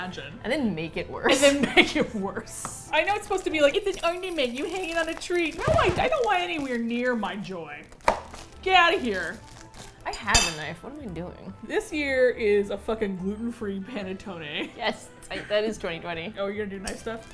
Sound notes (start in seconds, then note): 1.3 both laugh; 3.7 chimes tinkle; 5.4 record scratch